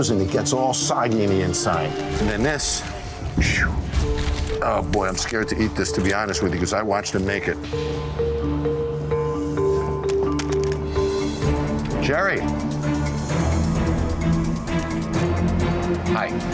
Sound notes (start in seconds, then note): 1.2 scoffs; 13.1 dramatic music